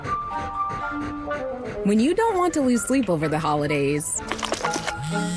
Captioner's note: dog breathing heavily